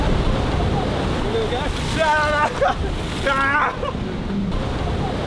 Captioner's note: splash